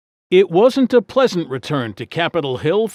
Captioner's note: voiceover